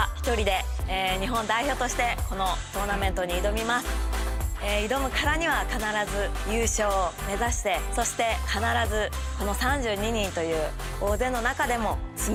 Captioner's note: speaking japanese